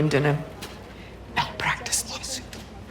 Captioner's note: whispers